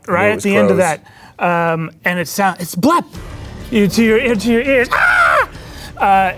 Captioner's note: screaming